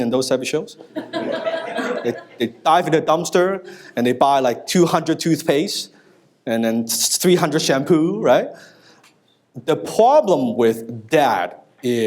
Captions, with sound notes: and those types of shows? (audience laughs) They dive in the dumpster, and they buy like 200 toothpaste, and then 300 shampoo, right? The problem with that is